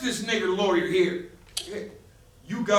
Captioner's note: click